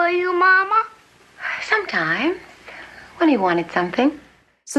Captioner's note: sighing